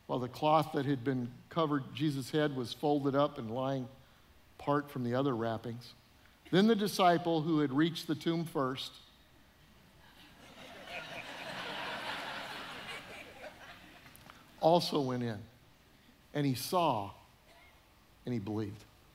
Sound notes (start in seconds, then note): 10.2 audience laughing